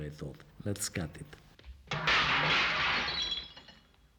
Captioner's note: glass shattering